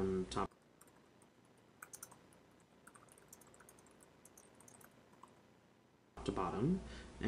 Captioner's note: typing